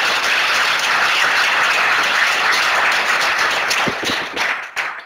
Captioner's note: audience applause